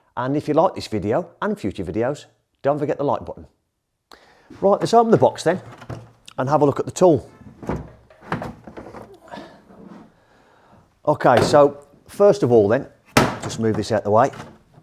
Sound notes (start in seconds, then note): 7.4 cover thuds; 8.6 tool clatters